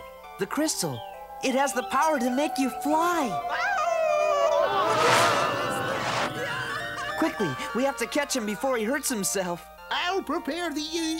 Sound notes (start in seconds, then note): 1.5 Tweeg shouts